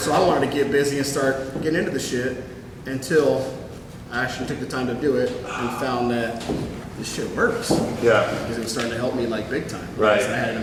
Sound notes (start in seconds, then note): 5.4 sighs